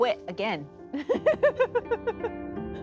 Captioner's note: laughing